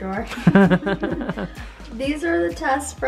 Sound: laughs

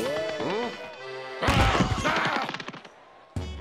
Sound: yells angrily

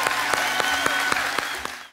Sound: congregation cheering and applauding

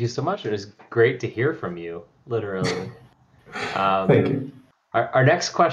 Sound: laughs

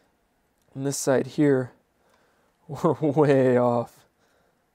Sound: laughs

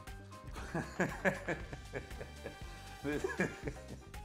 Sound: laughing

